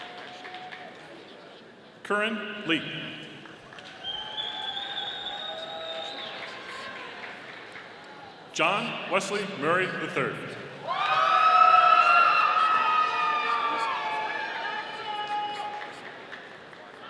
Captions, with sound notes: Koryn Lee. (audience applauding) John Wesley Murray III. (audience cheering)